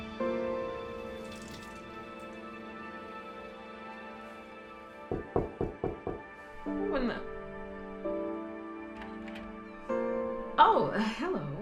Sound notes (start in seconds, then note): 5.1 knocking; 8.9 door clacks